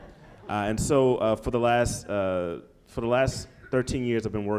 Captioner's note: laughter